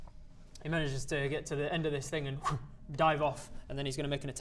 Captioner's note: whoosh